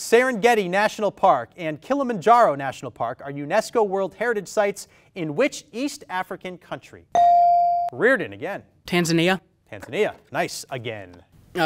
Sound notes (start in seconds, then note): 7.1 ding